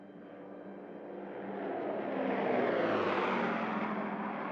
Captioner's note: engine roaring